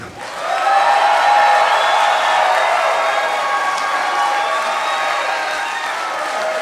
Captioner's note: applause